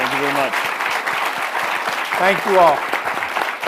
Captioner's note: audience applauding